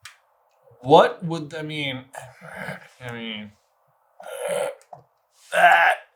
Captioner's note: grumbles